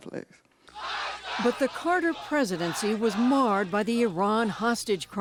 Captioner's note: voice-over